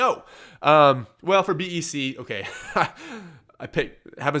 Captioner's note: laughs